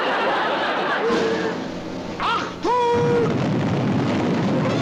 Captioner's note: explosion